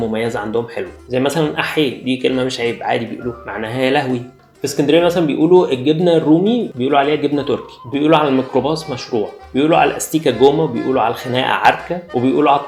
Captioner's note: Arabic words in Alexandrian accent